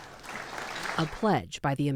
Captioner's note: applause